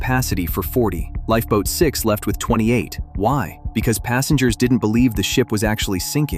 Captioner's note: thoughtful